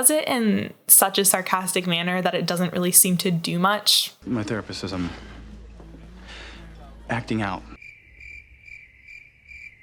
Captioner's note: crickets